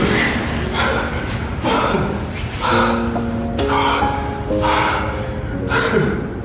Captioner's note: Chris chuckling; Chris panting